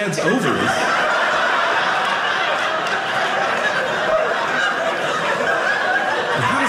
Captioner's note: audience laughing